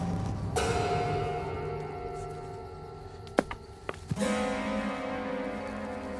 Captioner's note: crickets continue chirping; eerie music